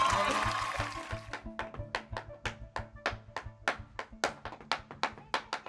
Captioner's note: cheering; tap-dancing